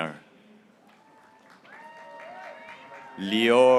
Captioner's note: graduates cheering